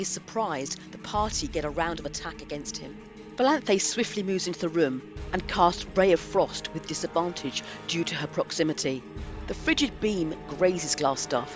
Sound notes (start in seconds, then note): none